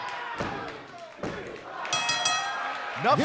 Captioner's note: bell ringing